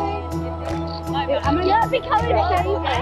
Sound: excited chatter

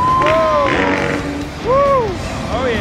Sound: hosts cheer; dirt bike engine revs

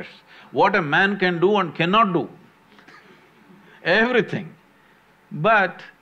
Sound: laughs

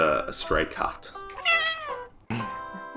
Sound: cat meows; laughs

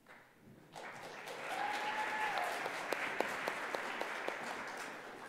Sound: audience clapping

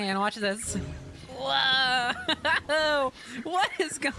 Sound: laughter

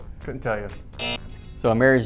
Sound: buzzer

